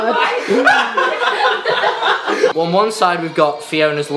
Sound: laughing

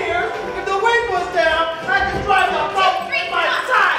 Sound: shouting

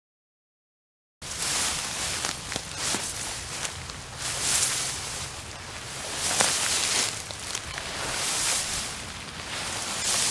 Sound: sound of handling grass

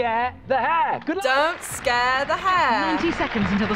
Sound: in "English" accent

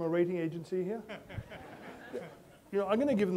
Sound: laughter

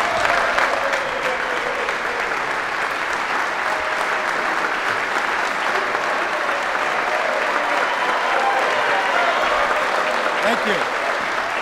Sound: applause

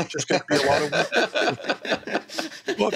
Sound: laughs

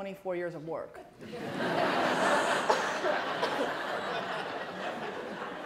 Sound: laughter

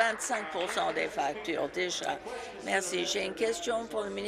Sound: applause

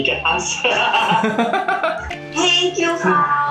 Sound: laughs

